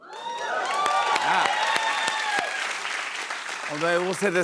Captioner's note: cheers and applause